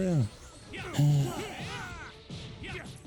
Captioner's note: sigh